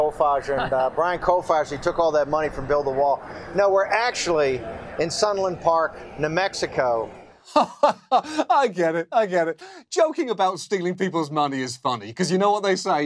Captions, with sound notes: of Brian Kolfage. And Brian Kolfage took all that money from Build A Wall. No. We're actually in Sunland Park, New Mexico. (LAUGHS) I get it. I get it. Joking about stealing people's money is funny